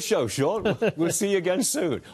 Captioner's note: laughter